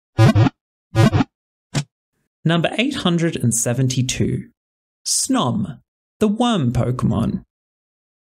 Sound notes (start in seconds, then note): 0.4 Pokéball wiggle sound